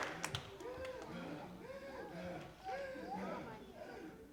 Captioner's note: boy panting deeply